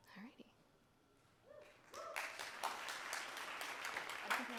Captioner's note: applause